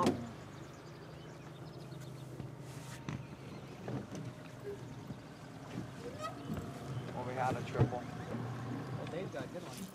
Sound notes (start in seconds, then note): 2.9 boat engine idling